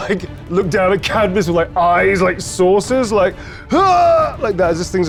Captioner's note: grunts